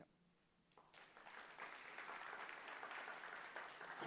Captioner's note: applause